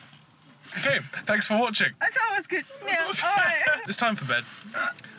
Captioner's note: laughter